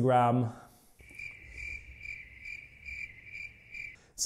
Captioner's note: crickets